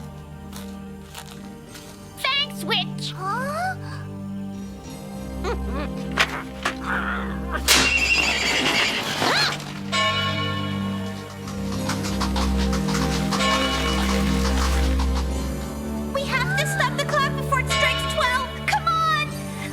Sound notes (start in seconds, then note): 8.0 horses neighing; 9.9 clock bell ringing